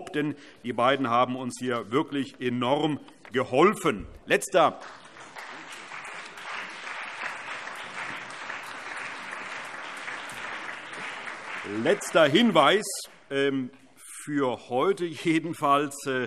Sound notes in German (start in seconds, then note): 4.6 Allgemeiner Beifall